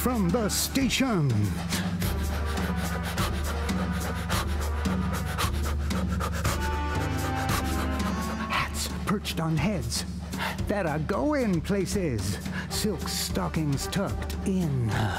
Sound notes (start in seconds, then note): 6.4 inhale; 8.4 exhale